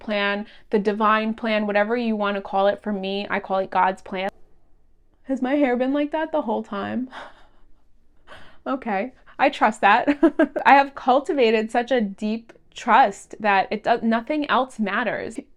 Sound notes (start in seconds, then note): 10.0 giggles